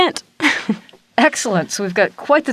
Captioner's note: chuckles